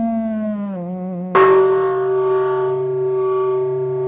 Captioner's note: bell